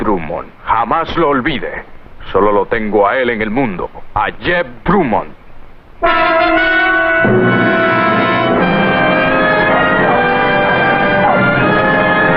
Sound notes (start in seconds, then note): 9.0 dog barking